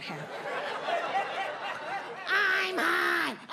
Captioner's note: audience laughs